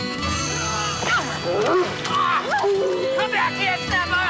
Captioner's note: yells, thuds